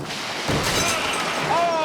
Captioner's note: shed shattering; motorcycle thuds